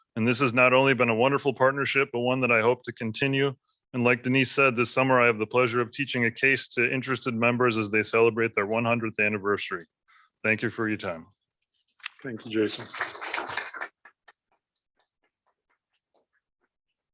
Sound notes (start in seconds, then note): 12.4 applause